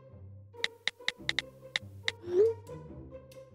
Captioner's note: keyboard typing for the last time